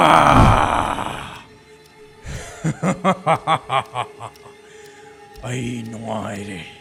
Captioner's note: laughing